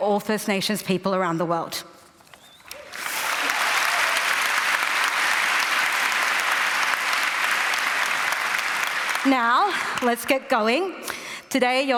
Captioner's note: applause